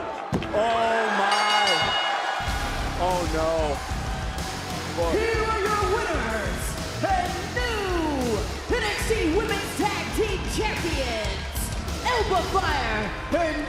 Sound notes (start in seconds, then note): 1.2 bell rings; 2.7 crowd cheers